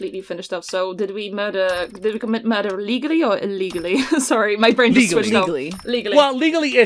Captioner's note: laughs